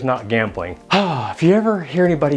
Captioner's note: sighs